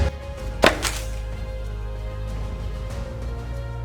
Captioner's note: thump and slide